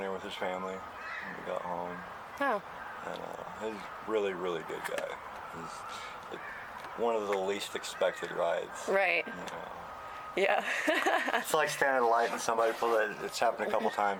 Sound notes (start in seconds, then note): 10.6 laughs